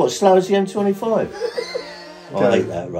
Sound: both laughing

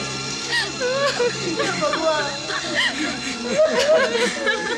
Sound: crying

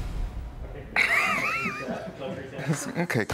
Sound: chuckles; both chuckling

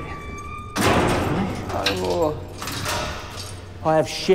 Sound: Reg pleading

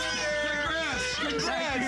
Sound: cheering

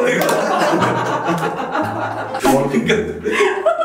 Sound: hahaha

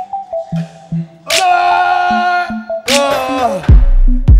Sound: grunts

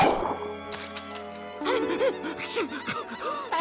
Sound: whimpering

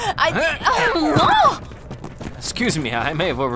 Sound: grunts

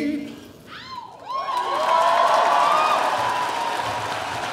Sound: audience cheering

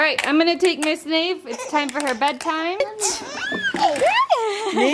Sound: laughs; coos

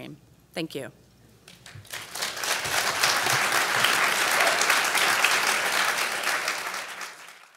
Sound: applauds

